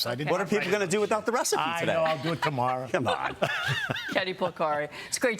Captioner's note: laughter